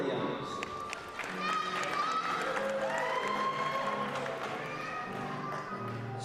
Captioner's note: applause